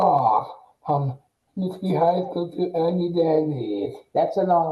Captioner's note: mumbles excitedly